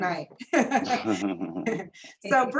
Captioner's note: laughter